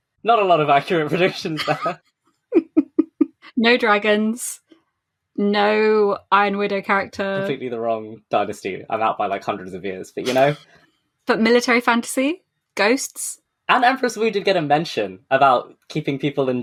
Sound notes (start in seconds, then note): 0.3 laughing